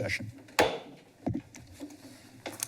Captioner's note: gavel tap